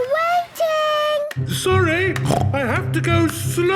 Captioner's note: snorts